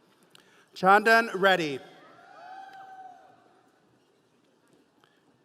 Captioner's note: audience cheering